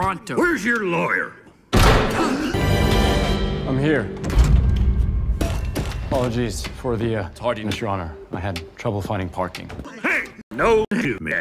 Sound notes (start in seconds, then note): 1.7 bang